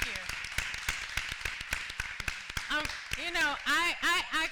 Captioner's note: applause